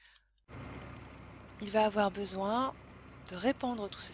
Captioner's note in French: bruit de tracteur